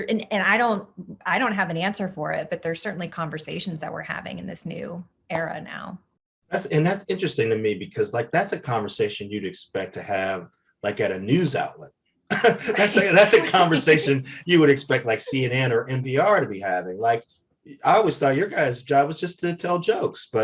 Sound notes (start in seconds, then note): 12.3 Eric laughs